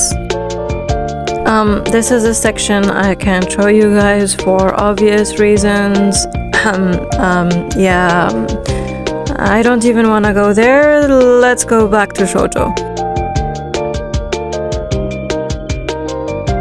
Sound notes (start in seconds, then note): 6.5 cough